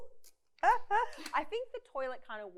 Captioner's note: laughs